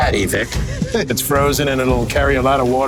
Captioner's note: laughs